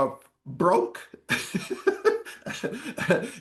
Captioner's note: laughs